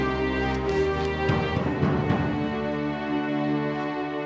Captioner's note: <i> pounding at door</i>